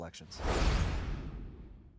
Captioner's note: logo whooshing